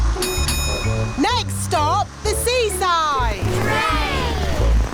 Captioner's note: bell dings